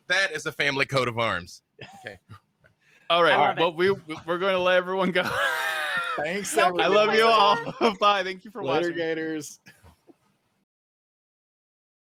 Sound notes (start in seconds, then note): 5.7 wheezes